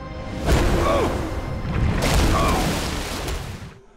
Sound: grunting

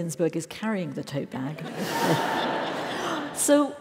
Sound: laugh

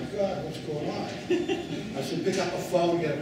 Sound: laughing

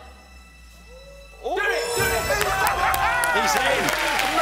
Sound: cheering

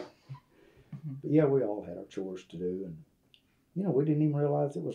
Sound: laughter

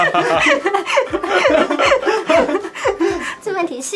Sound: teacher laughs so happily

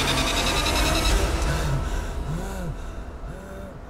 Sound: caveman panting

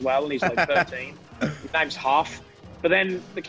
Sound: laugh

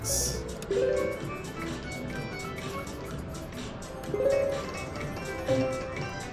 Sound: machine beeps

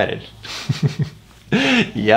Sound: chuckles

